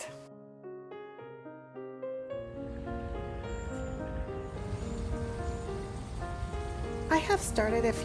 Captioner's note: instrumental music; nature sounds